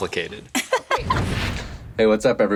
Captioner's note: laughs